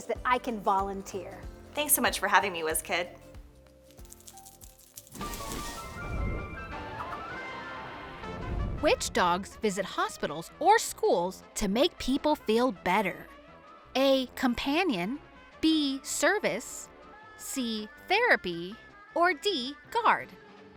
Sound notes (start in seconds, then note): 5.4 transition whooshes; 5.4 playful upbeat music